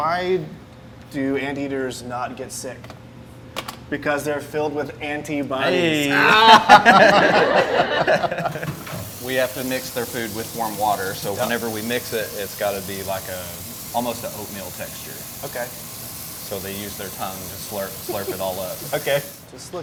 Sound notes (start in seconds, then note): 6.0 everyone laughing